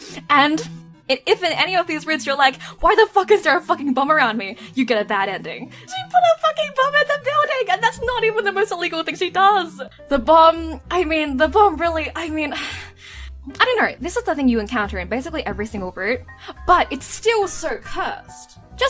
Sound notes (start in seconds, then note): 12.3 sigh